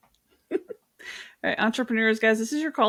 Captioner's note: giggles